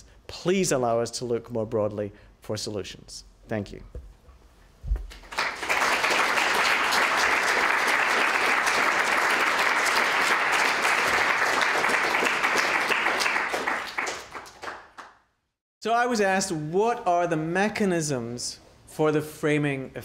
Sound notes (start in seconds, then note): 4.6 applause